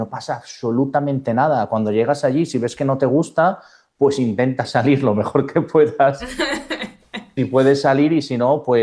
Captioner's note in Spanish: risas